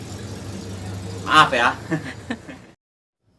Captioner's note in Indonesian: tertawa